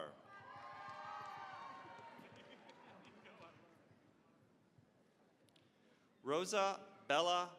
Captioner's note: cheering, applause